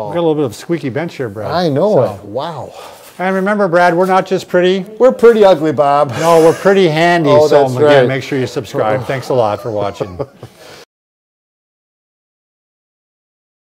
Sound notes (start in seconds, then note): 8.9 chuckling